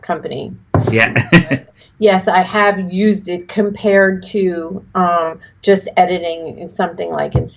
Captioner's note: laughs